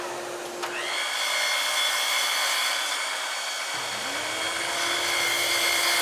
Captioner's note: cutter whirring continues